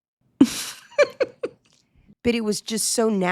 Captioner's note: laughing